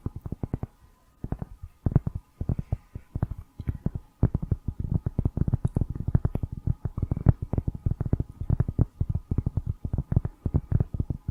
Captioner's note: tapping on cork